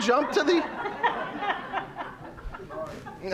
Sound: audience laughing

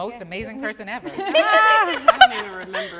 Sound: all laughing

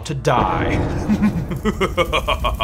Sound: maniacal laughing; fire crackling

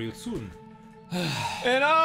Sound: sigh; exasperated sigh

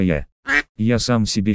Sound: quack

